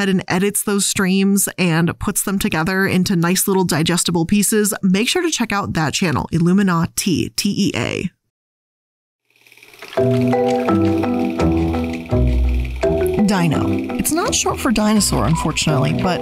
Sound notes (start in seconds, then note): 9.6 film sputtering; 10.0 upbeat music